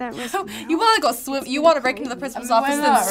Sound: laughs

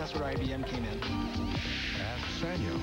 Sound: whoosh

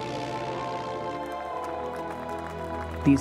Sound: crowd applauding

